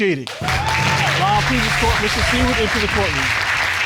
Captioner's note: audience cheering and applauding